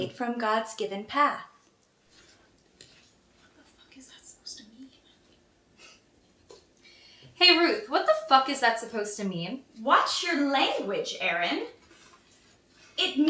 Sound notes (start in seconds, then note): 3.8 whispering